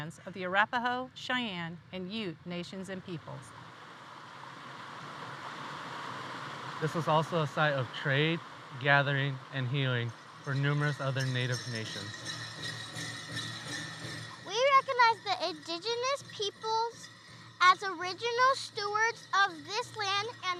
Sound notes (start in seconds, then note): 4.3 water rushing; 12.6 bells jingling